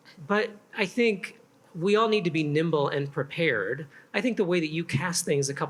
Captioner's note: none